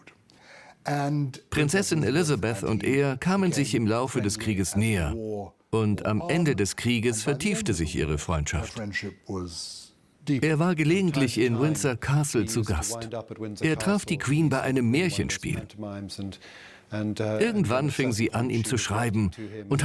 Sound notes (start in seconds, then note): none